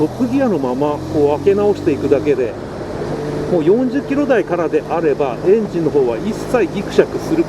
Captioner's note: throttle